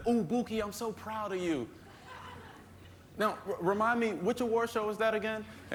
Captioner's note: laughter